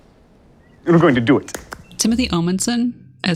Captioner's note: snaps fingers